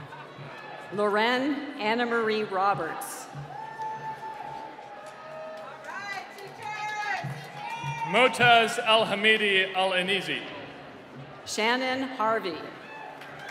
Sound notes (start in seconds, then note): 3.3 cheering